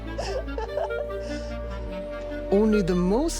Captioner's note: laughing